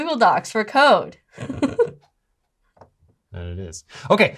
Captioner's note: laughs